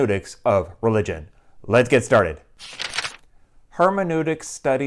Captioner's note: page turning